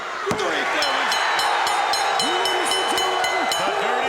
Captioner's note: bell dings